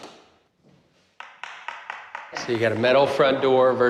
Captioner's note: tapping; Knocking